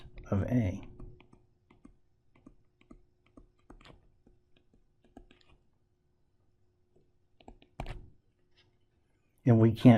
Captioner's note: tapping Sounds